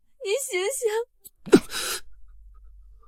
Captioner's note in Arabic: سعال